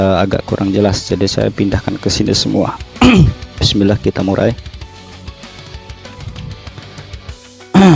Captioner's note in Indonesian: berdehem